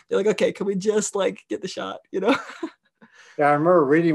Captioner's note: laughing